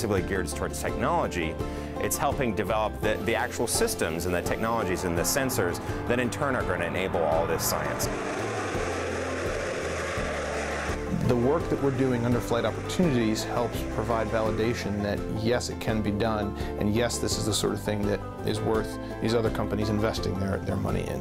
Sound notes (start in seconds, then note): 8.4 rocket noise